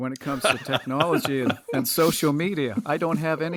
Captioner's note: laughs